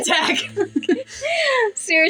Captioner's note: laugh; both Giggle